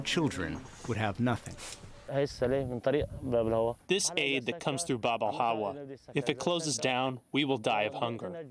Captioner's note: through translator